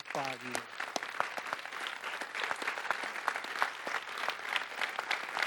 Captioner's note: audience applauding